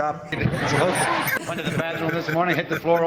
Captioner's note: laughing